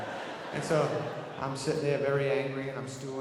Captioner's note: audience laughing